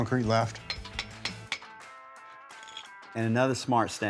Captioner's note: metal clangs